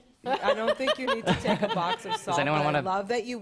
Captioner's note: laughter; laughs